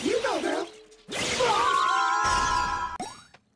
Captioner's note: magic Screaming